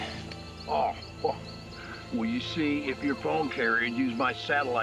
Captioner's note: scoffs